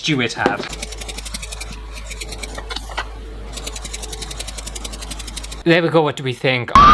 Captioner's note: airy Sounds